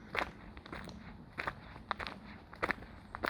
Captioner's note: footsteps